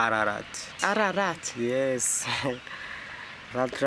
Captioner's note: chuckles